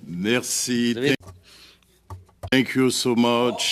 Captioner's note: speaking French